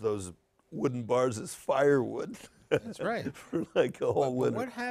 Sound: laughs

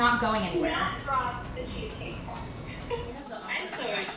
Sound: laughs

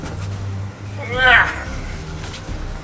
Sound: groans; intense music

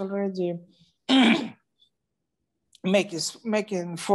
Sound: clears throat

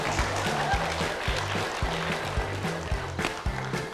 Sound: claps

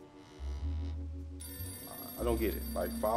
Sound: phone rings

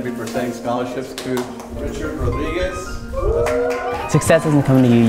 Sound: clapping and cheering

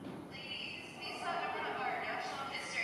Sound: recorded Voice

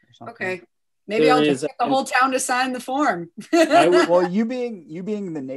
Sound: laughs

